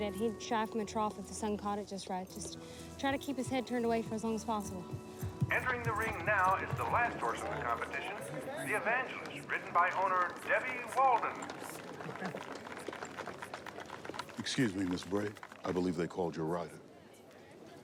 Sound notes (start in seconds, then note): 12.5 crowd applauding